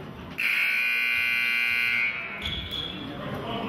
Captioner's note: buzzer honks